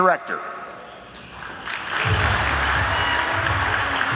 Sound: audience applauding; upbeat music

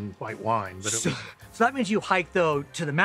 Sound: chuckles

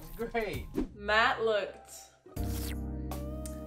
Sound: slurping

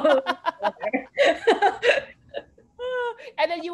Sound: laughter

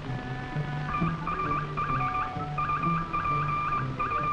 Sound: code beeping

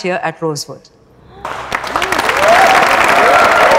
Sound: clapping

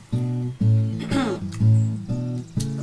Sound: clears throat

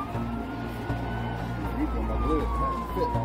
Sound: siren

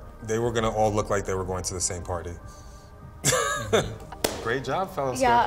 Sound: laughs

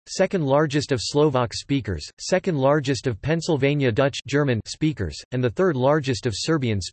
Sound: German

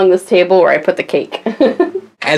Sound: laughs

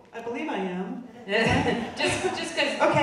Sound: audience laughing

